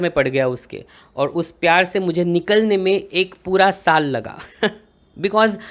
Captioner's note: snickers